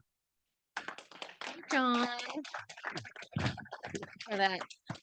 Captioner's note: audience applauding